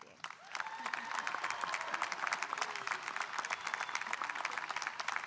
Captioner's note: audience cheering and applauding